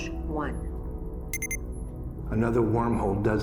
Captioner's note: computer beeps